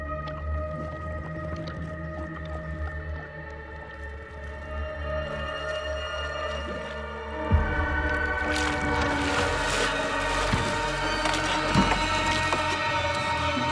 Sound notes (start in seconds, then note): 9.3 water splashing